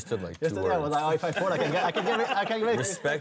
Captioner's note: laughter